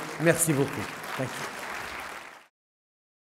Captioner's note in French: Applaudissements